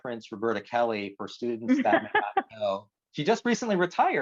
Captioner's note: laughs